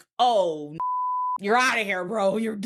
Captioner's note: beep